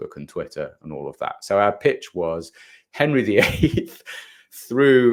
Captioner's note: chuckles